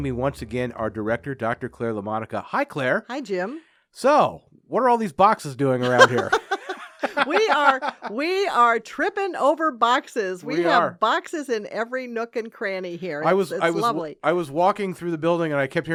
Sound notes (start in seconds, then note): 5.8 laughing